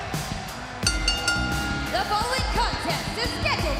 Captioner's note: bell ringing